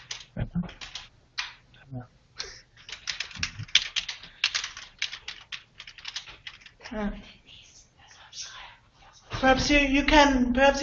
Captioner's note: typing sounds